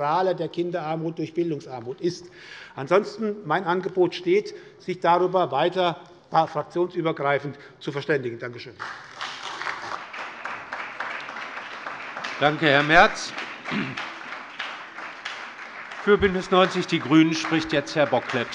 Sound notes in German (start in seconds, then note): 8.6 Beifall bei der SPD